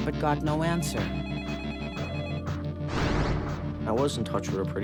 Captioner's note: telephone ringing